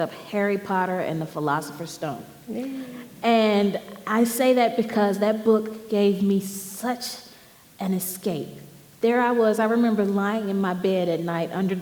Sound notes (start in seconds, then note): none